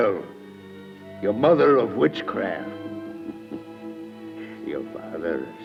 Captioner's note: chuckles